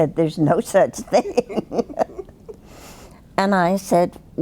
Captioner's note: both laughing